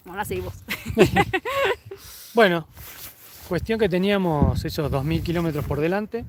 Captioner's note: laughs